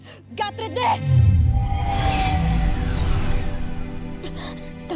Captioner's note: speaking in enchanta; sparkling whoosh; speaking in enchanta